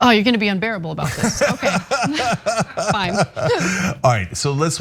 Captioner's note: laugh